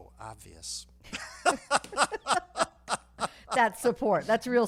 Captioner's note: laughing